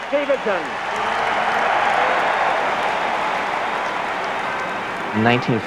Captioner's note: crowd Cheering